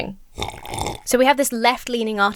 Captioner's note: slurps coffee loudly